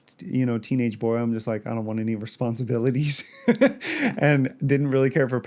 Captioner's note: haha